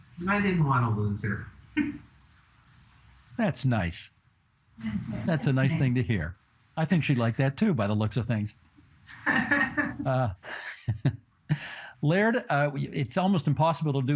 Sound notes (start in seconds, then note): 5.4 laughter